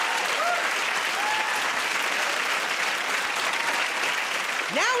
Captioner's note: applause